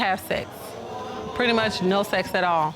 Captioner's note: audience exclaims